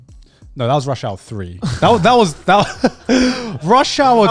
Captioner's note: laughs